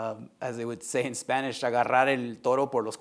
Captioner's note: speaking Spanish